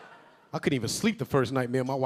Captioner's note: audience laughing